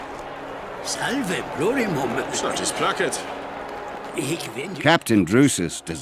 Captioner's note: people speaking foreign language